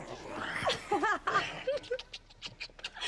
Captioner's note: laughs